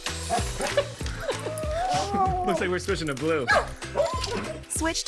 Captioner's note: laughing